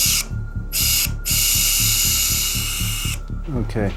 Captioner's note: tool whirring